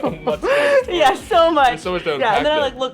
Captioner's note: laughs